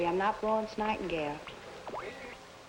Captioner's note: static from radio